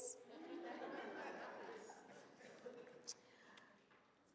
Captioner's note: audience laughs